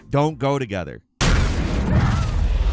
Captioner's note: wall breaks; characters screaming and grunting